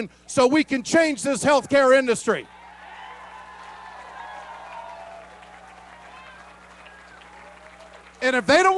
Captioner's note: cheering